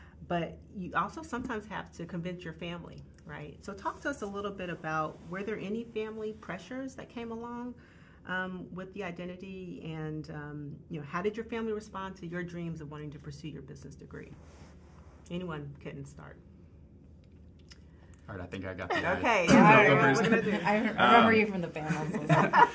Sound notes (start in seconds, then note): 18.9 group chuckling